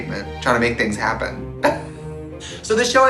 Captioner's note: laughing